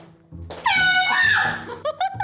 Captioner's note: air horn blast